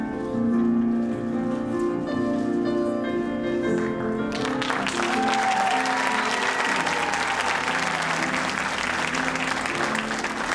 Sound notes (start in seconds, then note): 4.3 audience applauding and cheering